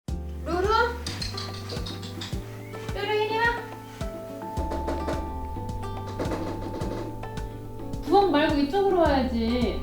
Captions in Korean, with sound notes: 루루! 루루, 이리 와! (똑똑똑똑!) (똑똑똑똑똑!) 부엌 말고 이쪽으로 와야지~